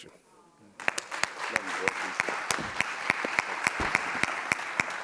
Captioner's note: audience coos and applauds